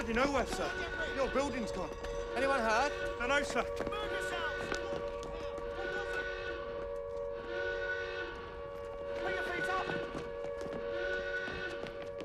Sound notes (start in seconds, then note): 6.9 sirens continue to wail